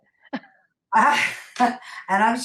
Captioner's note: laugh